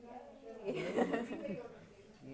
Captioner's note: laughing